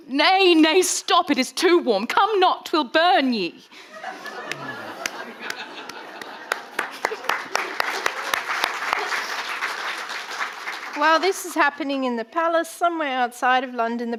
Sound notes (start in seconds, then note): 3.8 audience laughing; 7.2 audience applauding